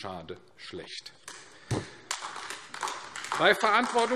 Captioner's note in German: Beifall AfD